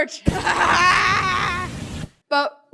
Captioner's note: maniacal laugh